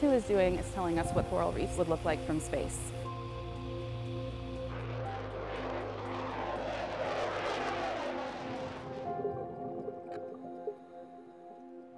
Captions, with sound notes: What the ER-2 is doing is telling us what coral reefs would look like from space. [Airplane taking off] [Water flowing/bubbles]